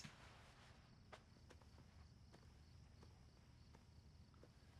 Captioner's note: crickets chirping